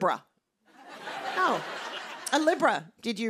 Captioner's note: laughter